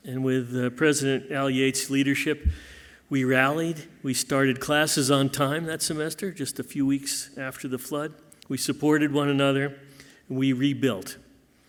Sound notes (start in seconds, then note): none